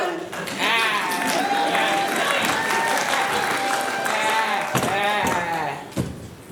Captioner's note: applause